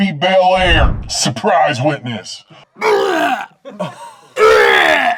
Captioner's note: gags loudly